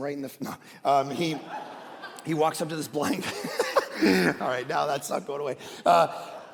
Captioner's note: laughs